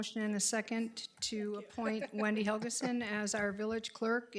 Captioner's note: chuckling